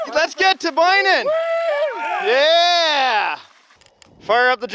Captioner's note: crew cheering